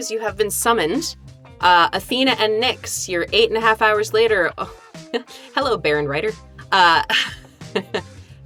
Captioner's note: chuckles